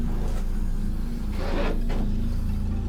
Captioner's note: none